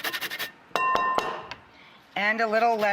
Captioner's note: bowl clanking